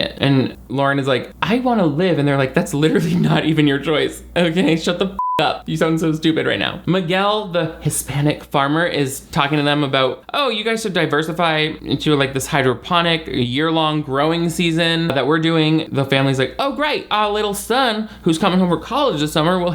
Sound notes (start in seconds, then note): 5.2 beep